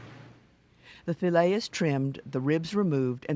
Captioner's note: voiceover